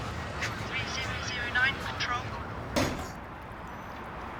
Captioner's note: Control on radio